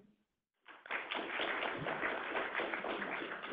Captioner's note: clapping